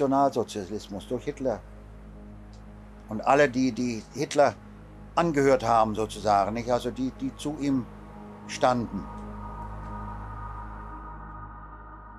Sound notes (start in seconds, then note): 6.9 continues speaking in German